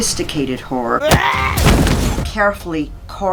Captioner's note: woman grunts; body thuds